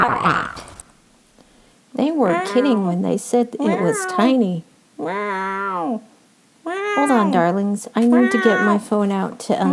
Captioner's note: cats are meowing constantly